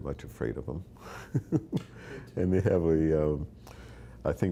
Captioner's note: chuckling